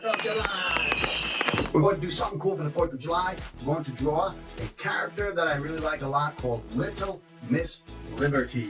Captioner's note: firework sounds